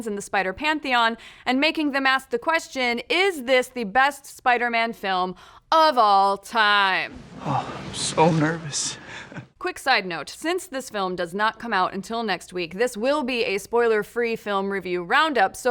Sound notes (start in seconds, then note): 7.1 laughs